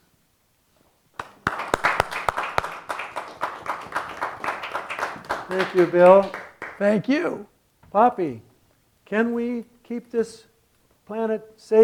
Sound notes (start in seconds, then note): 1.1 applause